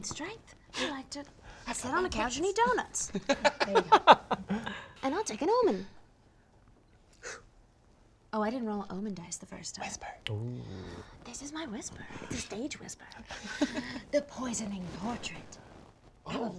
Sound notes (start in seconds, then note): 3.1 laughter